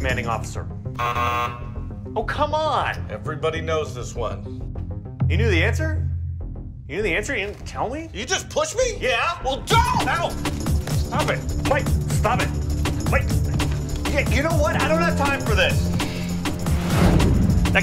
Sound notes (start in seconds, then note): 1.0 negative beep